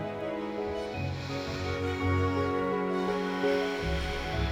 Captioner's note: deep breathing